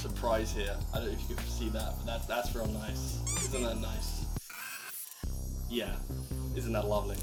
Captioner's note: squeek